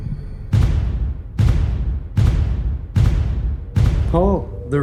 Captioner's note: ominous bangs